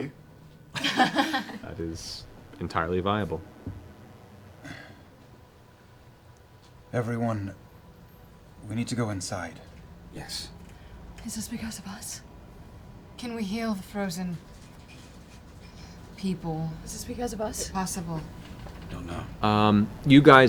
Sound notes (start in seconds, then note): 0.7 laughter